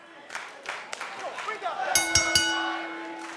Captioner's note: crowd cheering; bell ringing